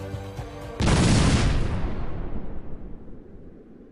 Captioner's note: door bursting